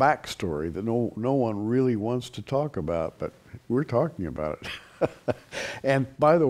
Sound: chuckles

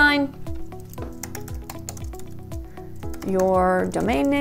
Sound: keyboard clicking

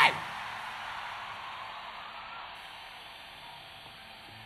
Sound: crowd cheering

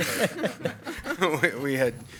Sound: board members laugh

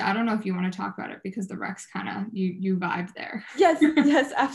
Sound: laughs

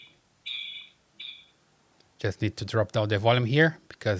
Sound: beeping

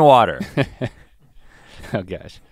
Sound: Link chuckles

